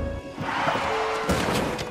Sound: car skids

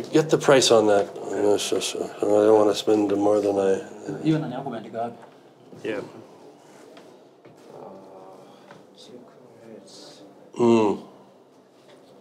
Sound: speak Swahili

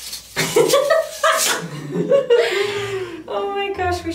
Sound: laughs

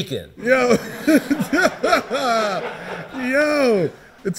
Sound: laughing

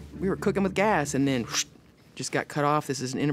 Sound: mimics knife slicing

